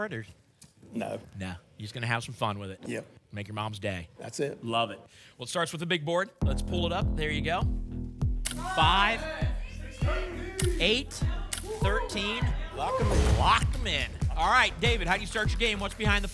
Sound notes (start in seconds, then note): 8.5 audience shouting numbers